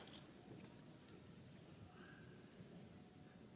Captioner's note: camera clicks